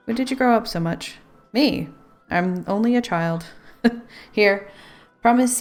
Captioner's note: laughs